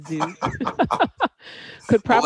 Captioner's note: laughter